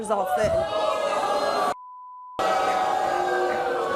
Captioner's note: audience boos